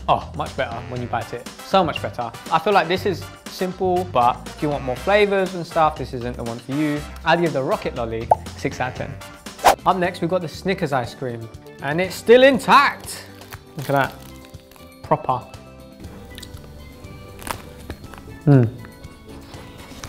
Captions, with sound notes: Oh, much better when you bite it. So much better. I feel like this is simple, but if you want more flavors and stuff, this isn't the one for you. I give the Rocket Lolly 6 out of 10. Up next, we've got the Snickers Ice Cream. And it's still intact. (wrapper rustling) Look at that. Proper. (ice cream crunching) Mm.